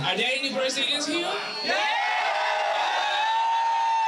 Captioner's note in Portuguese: gritos